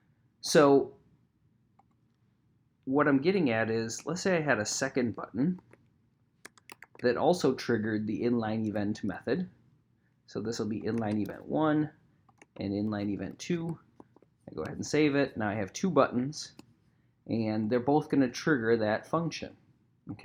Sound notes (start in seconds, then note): 6.4 keyboard clacking